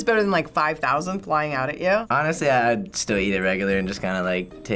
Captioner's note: none